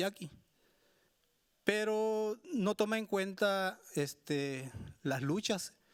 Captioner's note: speaking Spanish continues